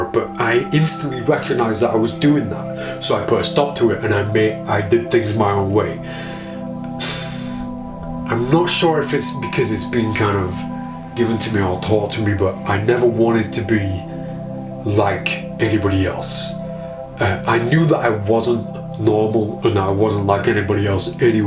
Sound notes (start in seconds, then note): 5.9 exhales